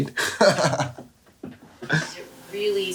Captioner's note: laughs